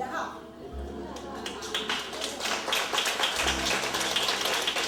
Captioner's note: audience clapping